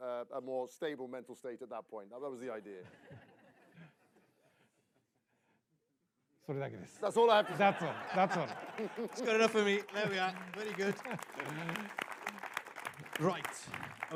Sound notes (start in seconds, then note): 2.7 laughter; 7.3 laughter; 11.4 applause